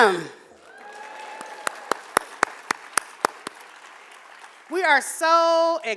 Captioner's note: audience cheering and applauding